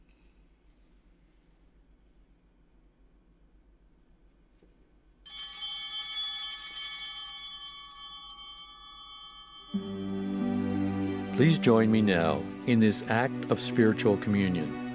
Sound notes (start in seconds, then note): 5.1 altar bells chiming